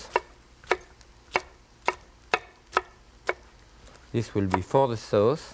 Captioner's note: knife tapping